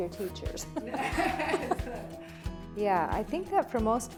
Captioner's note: laughs